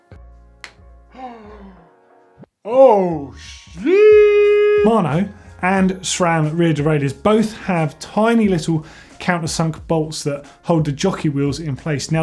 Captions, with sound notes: (gasps) Oh, shiiiii-- Mono and shroud rear derailleurs both have tiny little counter-sunk bolts that hold the jockey wheels in place.